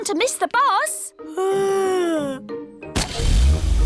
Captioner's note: yawns